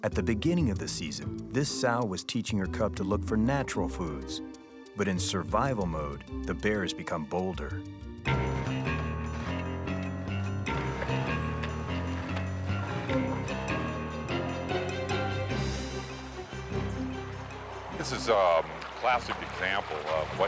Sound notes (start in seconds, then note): 8.8 water splashing; 10.9 soft dramatic music